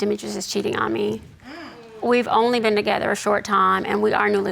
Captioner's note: audience gasps